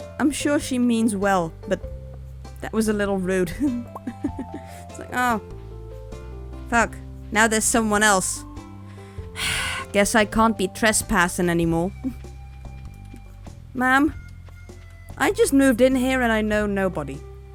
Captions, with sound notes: I'm sure she means well but... That was a little rude. "Oh, fuck, now there's someone else..." *sigh* "Guess I can't be trespassing anymore." Ma'am, I just moved in here and I know nobody-